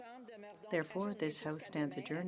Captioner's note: speaking French